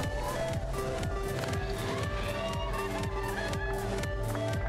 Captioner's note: cheering